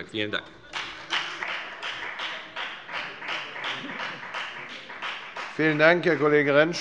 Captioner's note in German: Beifall bei der FDP